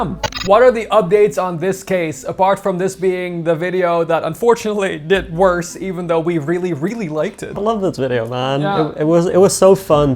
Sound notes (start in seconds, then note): none